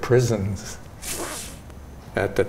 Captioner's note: inhales